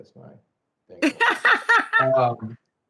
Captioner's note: laughs